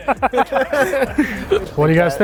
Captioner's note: all laughing